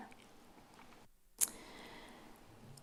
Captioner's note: smacks lips